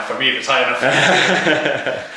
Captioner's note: jolly Laughter